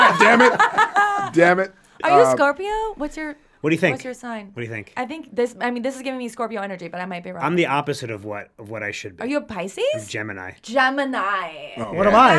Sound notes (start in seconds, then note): 0.0 all laugh